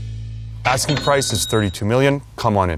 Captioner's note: register rings